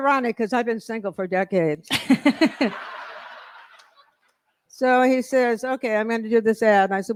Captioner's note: laughter